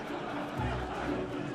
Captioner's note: audience laughing